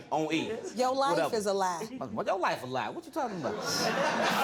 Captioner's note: scoffs; audience laughs